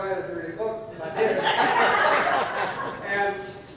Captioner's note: audience laughs